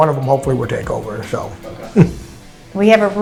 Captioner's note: chuckle